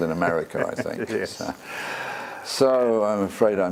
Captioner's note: laugh